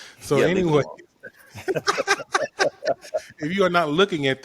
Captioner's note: laughing